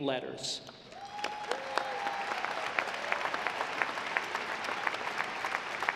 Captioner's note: audience applauding